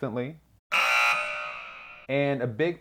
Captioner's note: buzzer